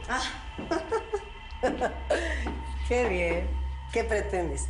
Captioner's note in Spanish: Ríe